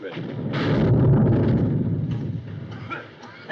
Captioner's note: big boom